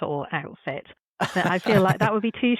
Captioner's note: chuckle